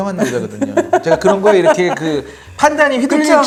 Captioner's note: hahahahahaha